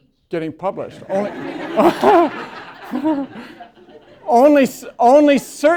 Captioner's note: laughter